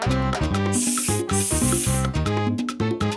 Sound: hissing

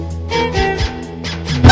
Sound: honk-honk

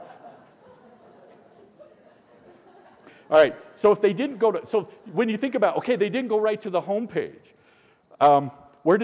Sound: laughter

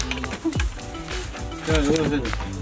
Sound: laugh

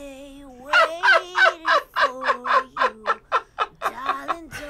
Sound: laughing

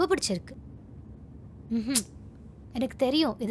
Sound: clicks tongue

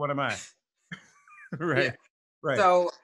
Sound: laughs

